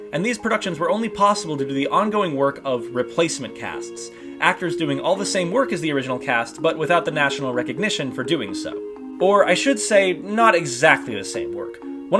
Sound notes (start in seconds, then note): none